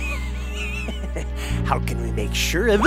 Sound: laughs wheezily

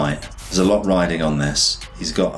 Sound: air whooshes

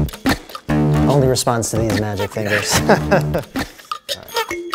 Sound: laughter

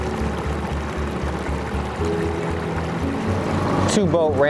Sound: engine droning; gentle music continues

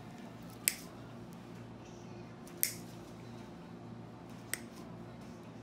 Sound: nail clippers clicking

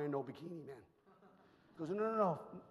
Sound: audience chuckles

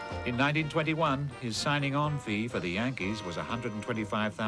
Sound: none

